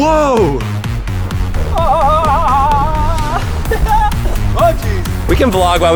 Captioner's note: yells